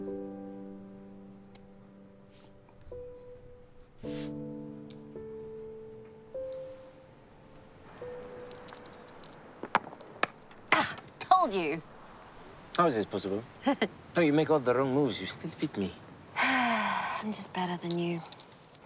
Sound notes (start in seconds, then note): 13.6 chuckles; 16.4 Olive sighs